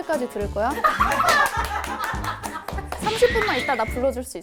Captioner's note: seal Clap